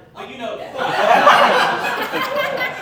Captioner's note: laughter